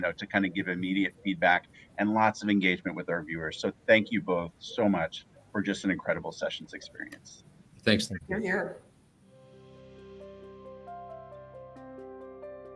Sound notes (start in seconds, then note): 8.3 talks quietly; 9.3 tranquil music